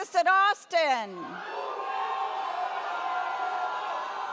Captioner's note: audience cheers